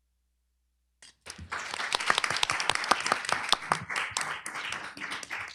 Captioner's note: applause